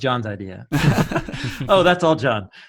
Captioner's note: men laughing